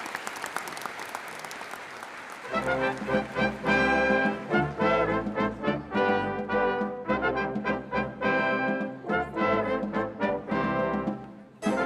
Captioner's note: applause